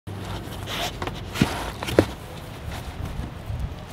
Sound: Flip sniffs; Kobe sniffs

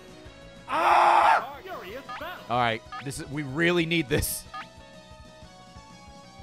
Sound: screams

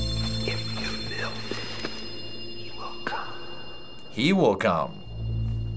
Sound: ghostly voice

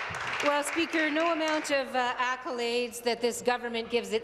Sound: applause

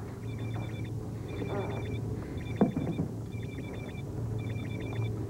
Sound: phone ringing

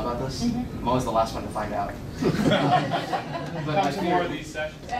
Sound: crowd laughs

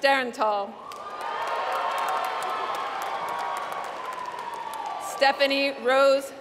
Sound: applause

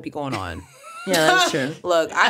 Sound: laughing

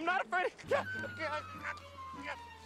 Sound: yelps

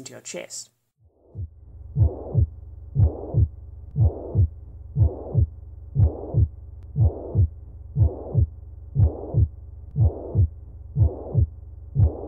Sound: 'lub-shh dub' muffled pumping noise

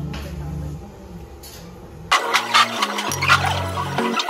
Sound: laughing

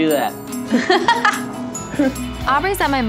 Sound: laughing

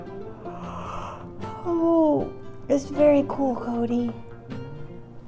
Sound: yawn

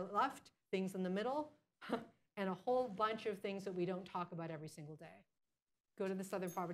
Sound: laughs

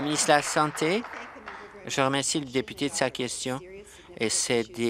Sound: applause

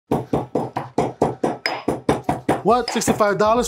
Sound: pestle and mortar pounding

